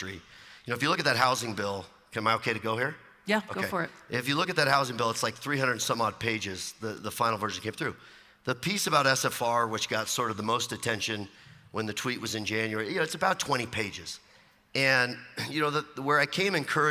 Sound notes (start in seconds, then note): 2.9 voiceover